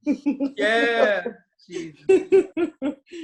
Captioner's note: laughing